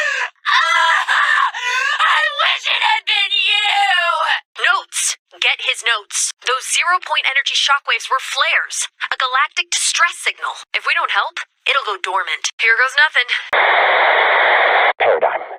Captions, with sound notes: *sobbing* I wish it had been you notes get his notes those zero point energy shock waves were flares a galactic distress signal if we don't help it'll go dormant here goes nothing Paradigm